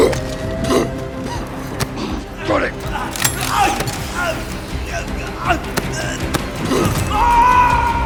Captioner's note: Price, coughing, rushes and uses the ascender